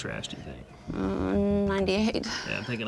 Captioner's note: laughs